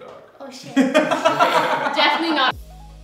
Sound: laughing

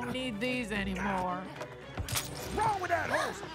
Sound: spurs jangle; gasps

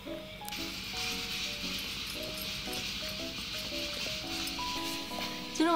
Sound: 🔊This sound is coming from the rice cooker

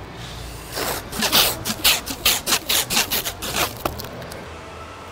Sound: tape unwinding

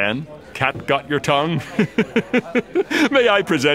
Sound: chuckles

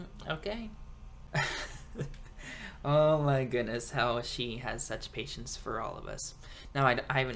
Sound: laughs

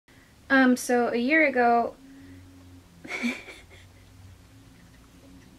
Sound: laughing

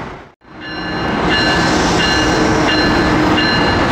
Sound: bells ringing

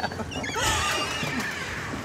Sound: both laughing

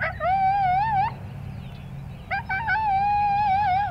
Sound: coyote barks

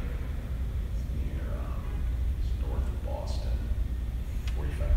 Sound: none

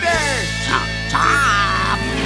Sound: chomping

